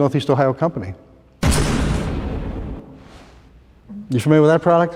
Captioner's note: explosion